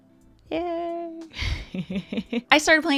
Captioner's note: laughs